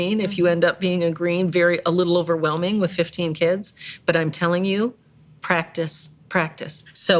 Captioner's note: none